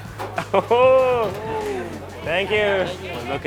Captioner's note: chuckling